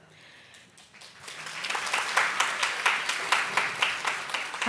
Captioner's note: audience claps